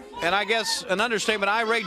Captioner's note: crowd cheering